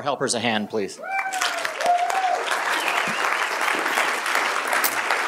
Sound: applause

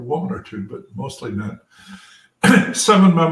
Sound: cough

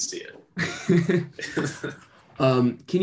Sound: laughter

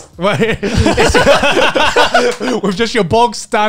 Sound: laugh

